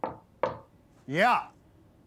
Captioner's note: knocking on door